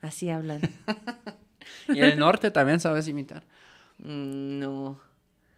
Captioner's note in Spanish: risas